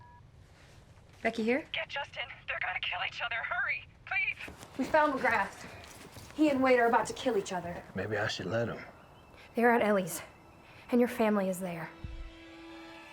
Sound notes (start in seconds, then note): 0.1 cell phone beeps on; 2.4 elli on phone